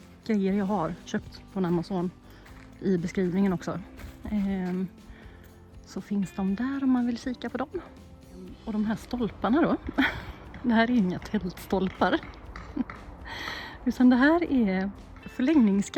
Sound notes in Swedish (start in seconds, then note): 13.1 skratt